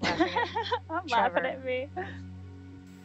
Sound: laughing

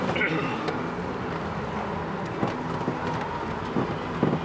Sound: cars rumble

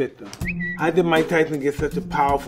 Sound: whistle

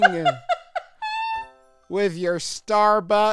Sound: laughs

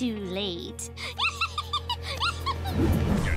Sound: cackling

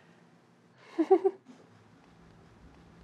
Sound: laughs

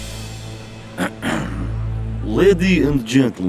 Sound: clears throat

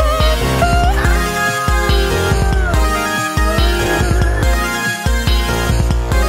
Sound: awooo~

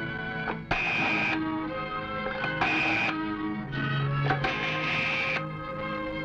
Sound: phone number dialing

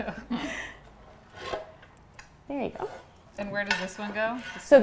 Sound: laughter

